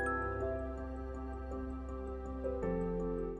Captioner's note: bell chime